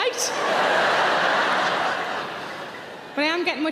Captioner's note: audience laughing